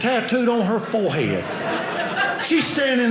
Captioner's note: audience laughing